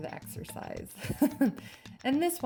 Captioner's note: light chuckles